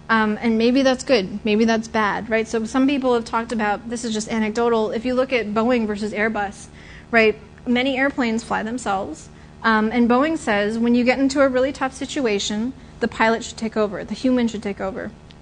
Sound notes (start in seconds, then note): none